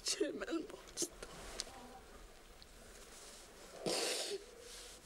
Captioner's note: crying, Sniffling